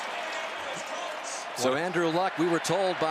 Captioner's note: pa announcement